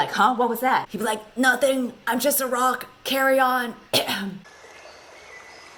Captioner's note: 𝘤𝘰𝘶𝘨𝘩𝘴